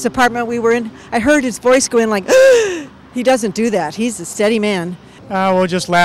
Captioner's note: gasps